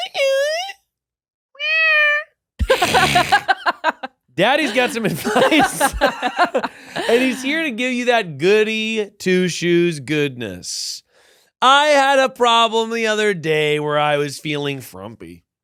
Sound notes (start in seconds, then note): 1.5 meows; 2.6 laughing; 4.4 both laughing